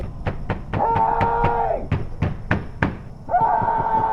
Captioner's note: banging on door